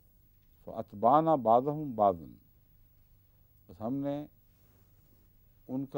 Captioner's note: Arabic